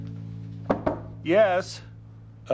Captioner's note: ABED knocks